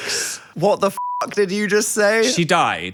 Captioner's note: beeps